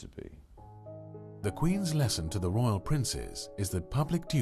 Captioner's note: voiceover